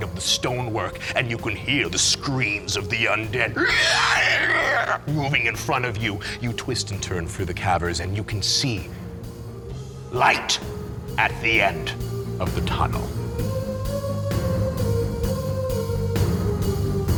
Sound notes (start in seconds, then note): 3.4 creepy screeching; 13.8 upbeat music